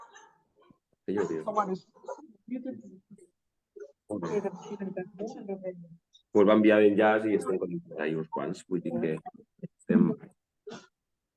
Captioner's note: Someone speaking in Catalan from Zoom